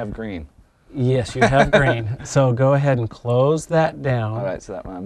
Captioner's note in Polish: Chichot